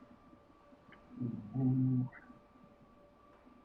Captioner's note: humming